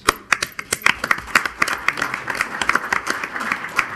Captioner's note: crowd applauding